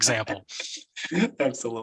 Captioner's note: laughs